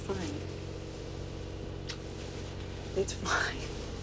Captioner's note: smooches